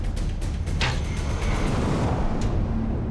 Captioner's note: arrow whistles, strikes